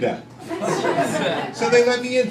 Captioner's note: crowd laughing